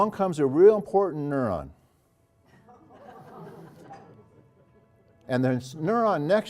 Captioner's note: laugh